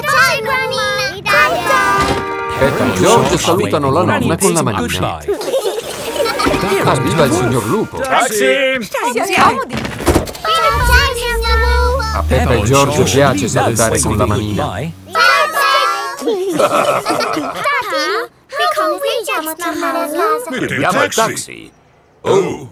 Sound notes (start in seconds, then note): 5.3 both laughing; 9.8 engine starts; 16.0 all laughing